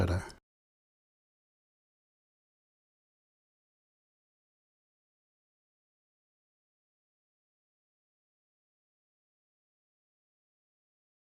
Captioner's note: silence